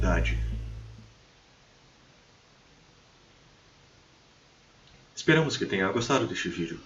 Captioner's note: absolutelly true silence